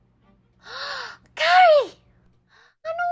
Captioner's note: gasp